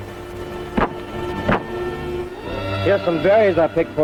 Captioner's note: broom thudding